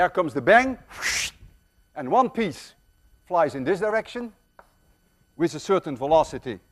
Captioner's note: whooshes